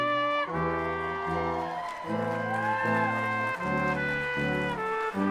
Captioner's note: audience cheering and applauding